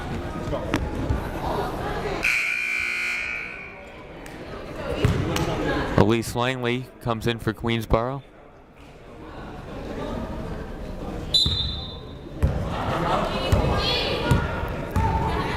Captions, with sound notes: (buzzer blares) Elyse Langley comes in for Queensborough. (whistle blows)